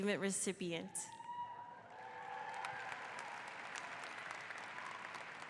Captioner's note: audience applauds